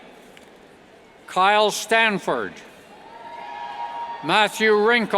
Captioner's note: cheers